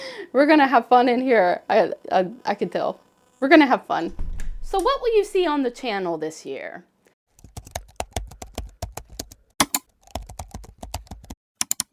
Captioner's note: typing and clicking noises